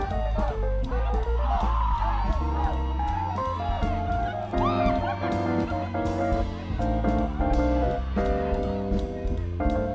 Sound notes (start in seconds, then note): 0.3 playful music continues; 5.1 students cheering and screaming